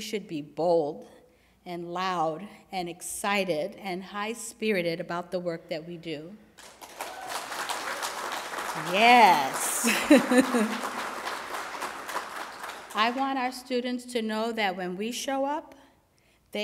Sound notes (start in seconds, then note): 6.5 applause